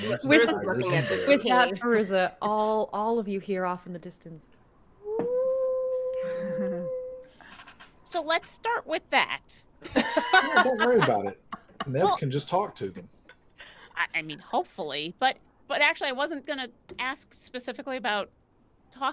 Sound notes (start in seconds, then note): 5.0 mimics wolf howl